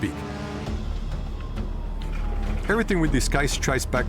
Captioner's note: suspenseful music; sirens wailing